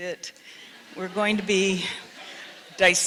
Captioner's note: audience laughs